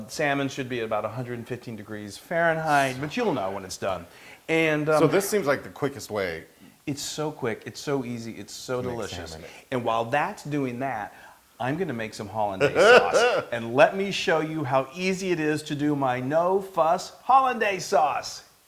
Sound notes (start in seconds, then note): 12.6 laugh